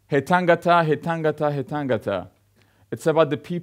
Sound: man speaks in foreign language

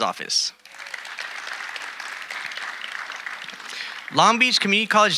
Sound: audience applauding

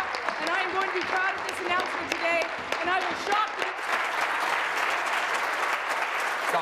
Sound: applause

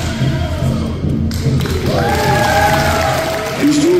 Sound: clapping

